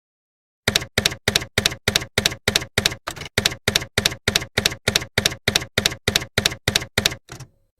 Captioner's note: typewriter keys clacking